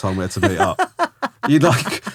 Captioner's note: laughing